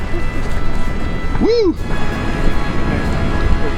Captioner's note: sound of the flames intensifies